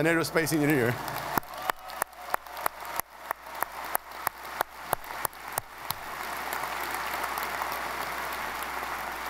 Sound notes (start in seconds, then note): 1.4 audience applauding